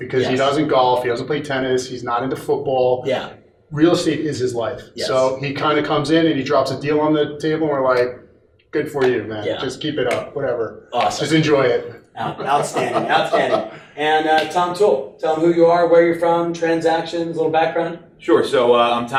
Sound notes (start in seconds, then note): 12.3 men laughing